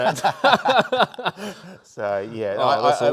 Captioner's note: laughing; host laughing